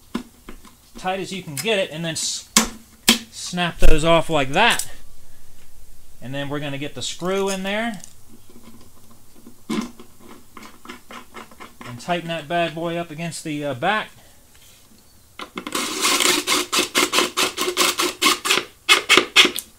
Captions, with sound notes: Tight as you can get it and then snap those off like that. And then we're gonna get the screw in there. And tighten that bad boy up against the back. (drill running)